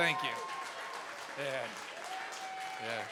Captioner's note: applause